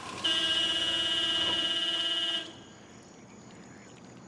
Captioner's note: car brakes squeal; car horn honks